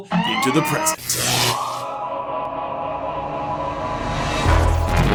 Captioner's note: electric zapping noises; intro Theme Music